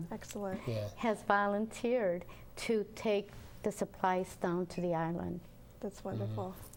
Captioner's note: murmuring